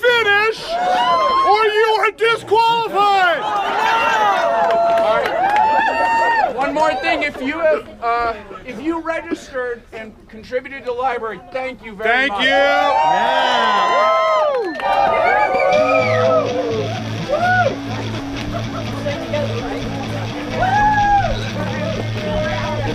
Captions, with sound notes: Or you will be disqualified. One more thing if you registered and contributed the library thank you, thank you! (cheers) (electric guitar) Woohoo! (cheers!)